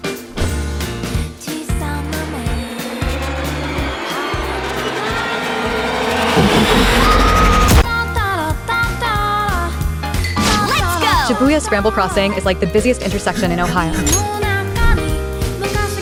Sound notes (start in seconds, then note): 1.6 disturbing SFX